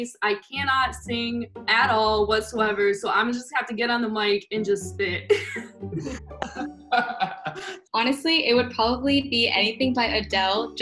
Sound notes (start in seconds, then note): 6.4 giggles; 6.9 Chase laughs